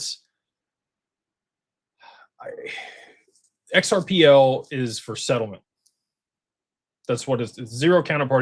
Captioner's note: sighs and gasps